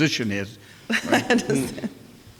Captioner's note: laughs